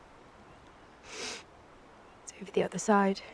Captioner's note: sniffles